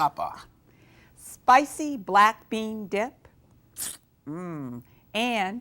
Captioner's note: sucks teeth